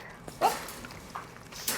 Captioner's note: dog eating